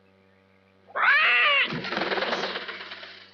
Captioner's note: owl hoots